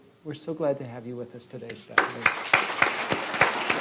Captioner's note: applause